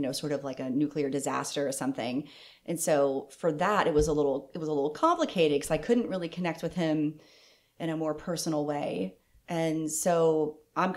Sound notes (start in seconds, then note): none